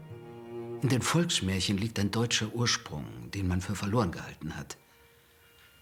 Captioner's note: speaking in foreign language